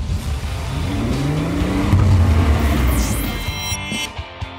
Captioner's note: engine revving